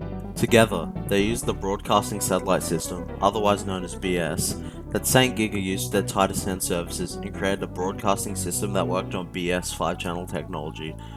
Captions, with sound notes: Together, they used the “Broadcasting Satellite” system, otherwise known as BS (heheh), that St.GIGA used for their Tide of Sound services and created a broadcasting system that worked on BS-5ch technology,